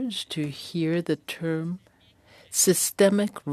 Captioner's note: speaking French